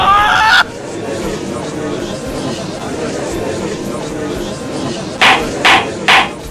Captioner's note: gallery chattering; gavel slams!